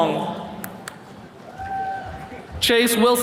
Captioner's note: attendees cheering